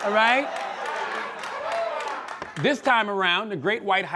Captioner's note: scattered applause